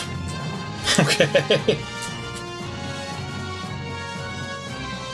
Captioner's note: laughing